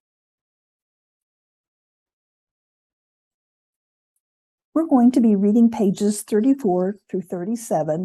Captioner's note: silence